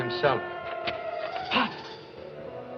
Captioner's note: door Opens